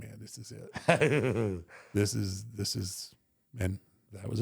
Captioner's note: Michael laughs